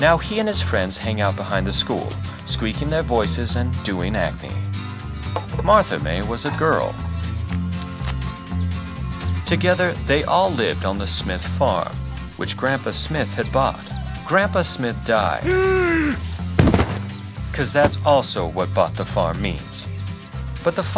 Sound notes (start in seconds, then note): 15.4 wheeze; 16.5 thud